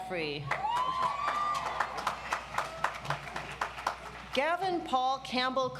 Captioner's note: audience applauds